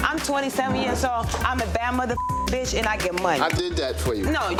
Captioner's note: beep